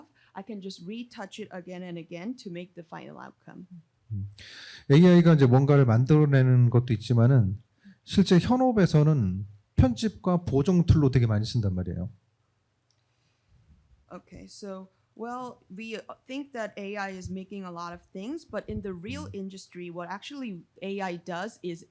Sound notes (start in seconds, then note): 5.0 speaking korean